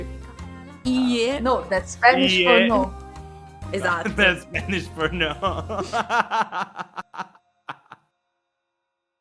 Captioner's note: repeating and laughing